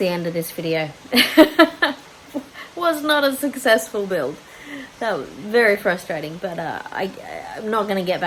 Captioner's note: wry laugh